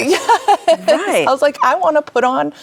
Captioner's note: chuckles